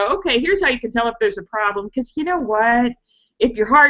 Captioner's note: none